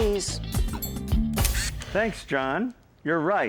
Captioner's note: camera clicks